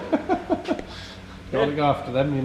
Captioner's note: laughing